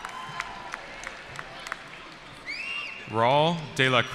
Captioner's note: cheering